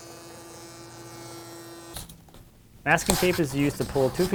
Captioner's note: machine buzzing